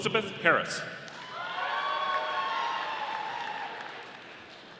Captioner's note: audience applauding